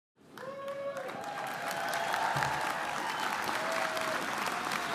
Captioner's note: audience applauding and cheering